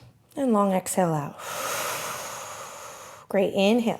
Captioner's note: loudly exhales